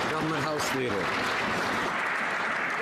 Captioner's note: some Applause